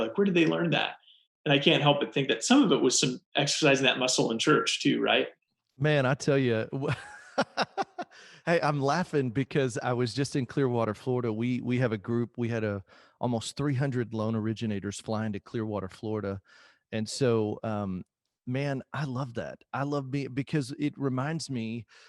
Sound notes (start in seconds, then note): 6.9 laughting